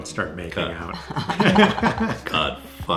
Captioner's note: parents laughing